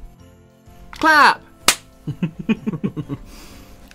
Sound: A Clap

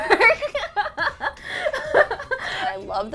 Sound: laughing

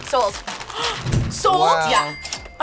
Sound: gasps

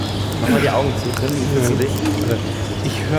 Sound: forest sounds

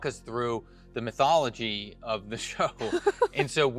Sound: chuckles

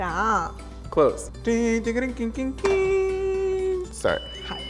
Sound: vocalizing fanfare

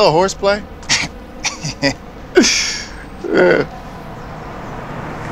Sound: laughing

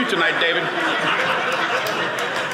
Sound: audience laughing

